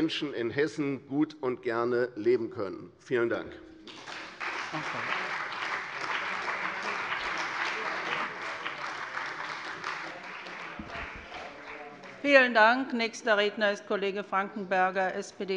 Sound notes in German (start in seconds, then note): 3.8 Beifall bei der CDU und dem BÜNDNIS 90/DIE GRÜNEN